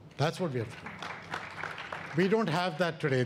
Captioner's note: audience applauds